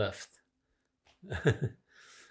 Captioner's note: laughing